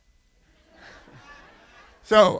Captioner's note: laughter